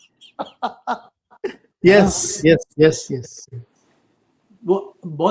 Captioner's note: laughter